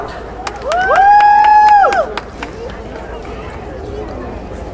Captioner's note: crowd cheering